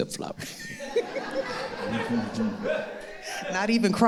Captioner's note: all laughing